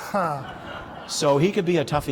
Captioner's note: laughter